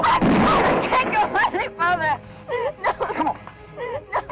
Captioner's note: gunshot